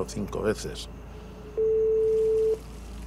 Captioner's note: ring tone